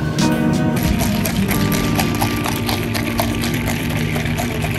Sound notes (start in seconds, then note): 0.7 drink clanging